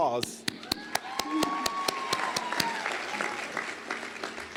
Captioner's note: cheers and applause